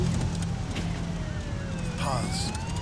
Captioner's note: sirens blaring